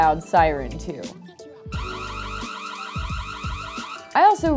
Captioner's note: siren going off